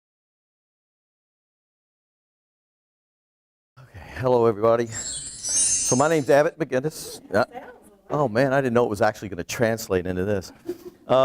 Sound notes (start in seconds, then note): 4.8 twinkle noise